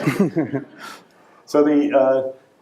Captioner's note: audience laughing